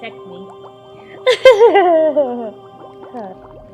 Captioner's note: evil cackle